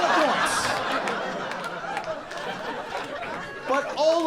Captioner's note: audience laughing